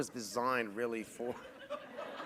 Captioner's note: laughter